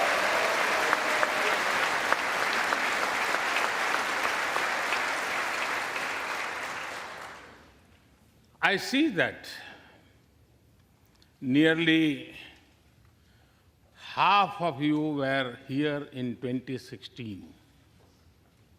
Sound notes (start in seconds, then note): 5.5 applause